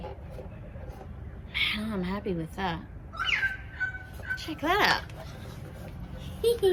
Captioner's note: loud evening bird song; giggles in a very self-satisfied manner